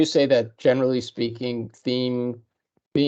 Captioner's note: none